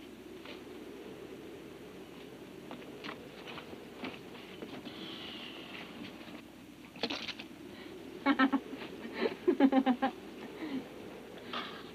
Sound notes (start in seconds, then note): 9.0 Abby laughs